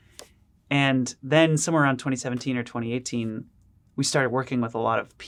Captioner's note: none